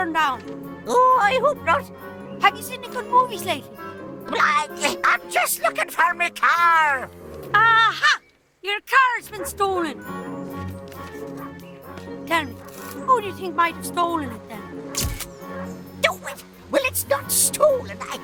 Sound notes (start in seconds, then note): 14.9 camera clicks